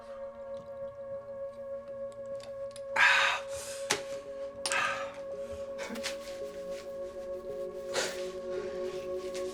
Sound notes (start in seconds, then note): 6.0 man crying